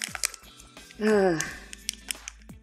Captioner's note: big sigh